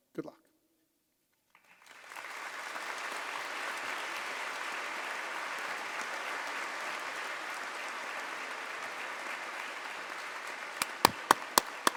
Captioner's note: applause